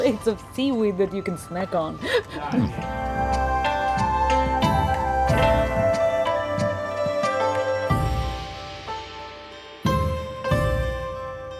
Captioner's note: laughing